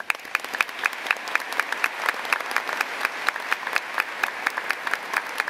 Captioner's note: applause